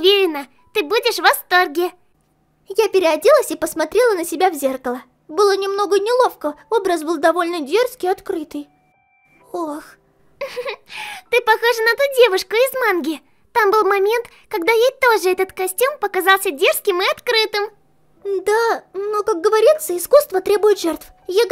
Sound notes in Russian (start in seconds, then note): 11.0 смеется